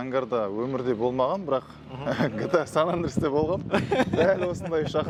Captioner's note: laughing